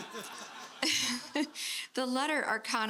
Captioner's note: laughter